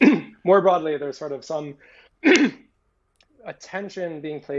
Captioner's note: clearing throat; clearing throat